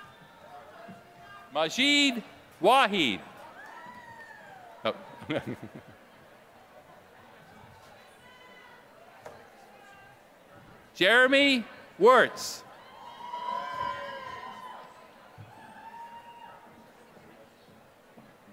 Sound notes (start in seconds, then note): 5.0 laughter